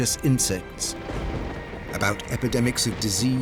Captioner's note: thunder crashing